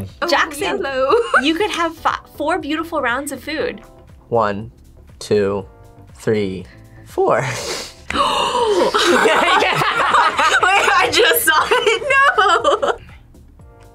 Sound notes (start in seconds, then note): 1.2 laughs; 7.4 gasps; 8.2 group laughs; 8.2 laughs